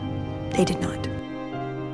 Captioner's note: voiceover